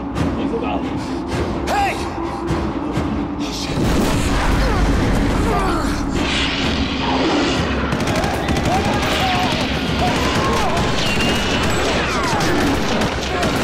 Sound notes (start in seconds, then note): 3.5 groaning; 7.6 guns blasting